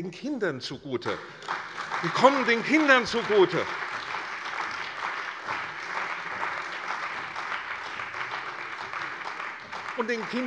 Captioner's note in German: Beifall bei der CDU und dem BÜNDNIS 90/DIE GRÜNEN